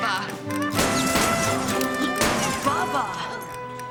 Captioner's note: gunshots